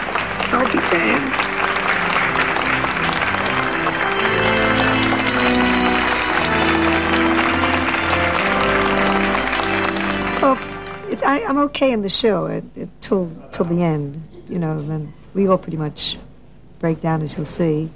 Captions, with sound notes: He'll be damned. (audience applauding) (audience applauding) Oh, I'm okay in the show till the end, you know, and we all pretty much break down as you'll see.